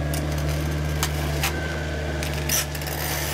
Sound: cracking, engine noise

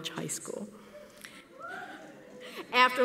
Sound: whooping from audience member

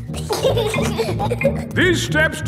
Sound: giggling

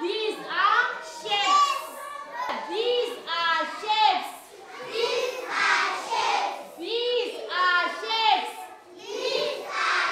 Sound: kids in unison

